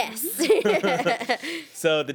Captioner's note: man and woman laugh